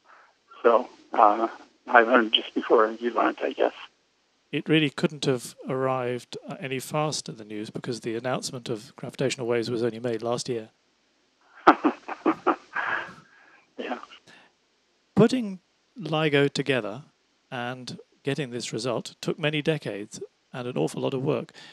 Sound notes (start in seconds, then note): 11.5 laughs